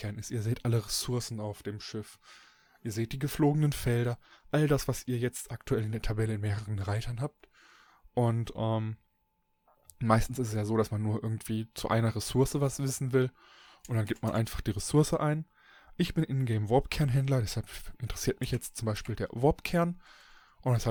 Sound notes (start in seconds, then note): 8.6 ehm